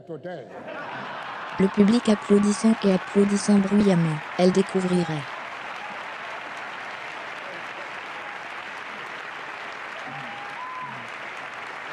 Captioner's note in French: rire en public; le public applaudissant et applaudissant bruyamment